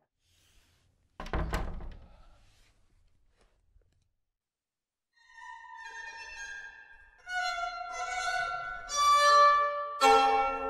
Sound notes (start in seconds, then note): 1.2 door closing; 5.5 uneasy orchestral music